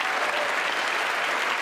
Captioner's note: applause